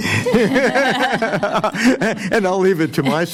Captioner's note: laughter